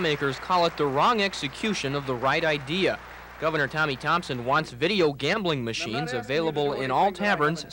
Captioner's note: applause